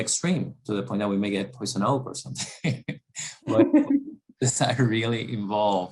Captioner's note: cough